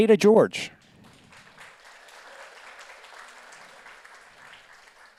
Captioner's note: audience applauds